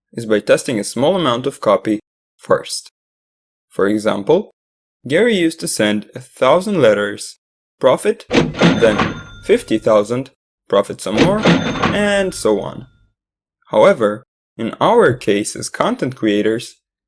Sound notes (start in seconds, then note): 8.3 cash Register Ding